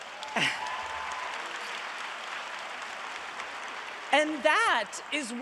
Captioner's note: audience applauding